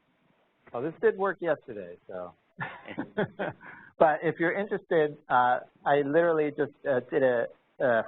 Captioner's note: chuckling